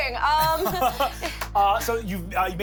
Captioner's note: laughs